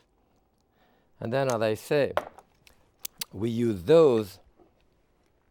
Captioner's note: lips smacking